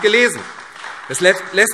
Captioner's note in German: Beifall AfD